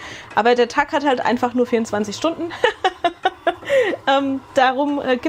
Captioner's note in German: gelächter